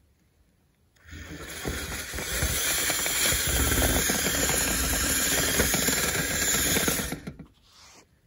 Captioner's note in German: Geräusch einer elektrischen Bohrmaschine